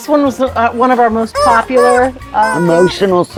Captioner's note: toy honking